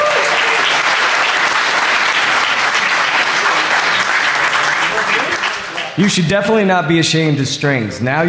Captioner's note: applause